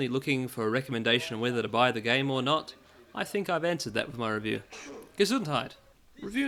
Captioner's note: sneeze from the review